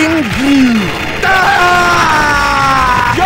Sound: screams

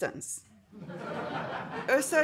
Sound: audience laughing

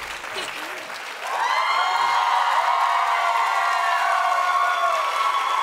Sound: audience cheering

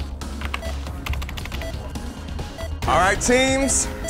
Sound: keyboard clicking

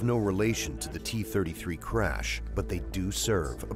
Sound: voiceover

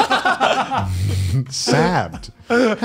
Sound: laughs

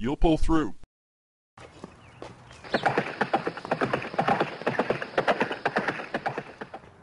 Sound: horse galloping away

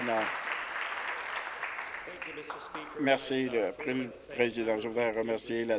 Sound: applause

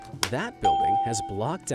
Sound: bell rings

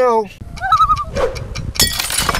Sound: loon call

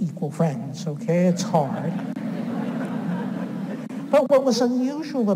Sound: audience laughs

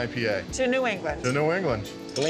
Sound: glasses clink

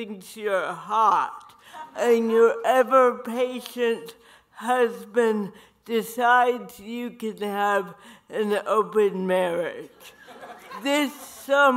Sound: audience laughter

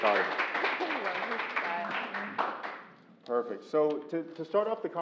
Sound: applause

